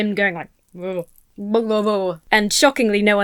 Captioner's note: moans and blubbers